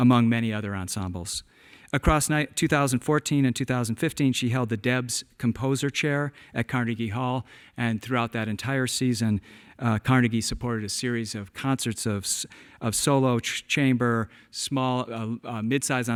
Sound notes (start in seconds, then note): none